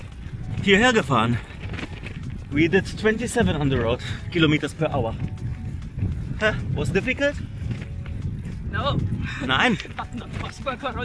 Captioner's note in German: gelächter